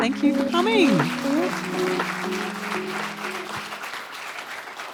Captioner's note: applause